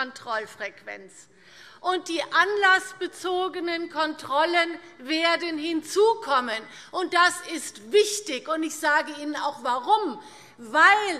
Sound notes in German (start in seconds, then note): none